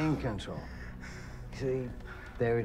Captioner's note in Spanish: Respirando profundamente